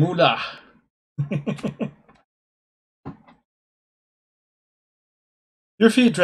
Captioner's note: chuckles